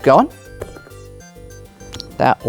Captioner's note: dice rolling